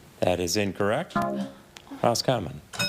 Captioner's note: buzzer buzzes